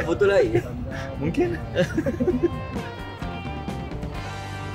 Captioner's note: laugh